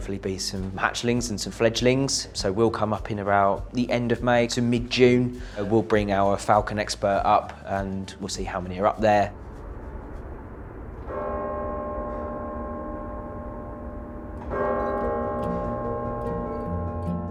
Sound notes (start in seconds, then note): 11.0 clock chiming